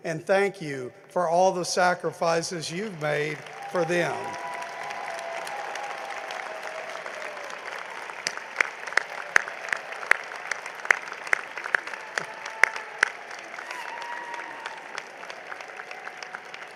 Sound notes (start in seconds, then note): 4.1 cheering and applause